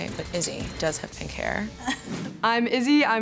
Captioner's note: laughs